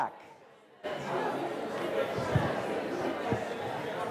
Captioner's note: class chattering